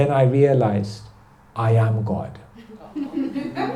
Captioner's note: laughter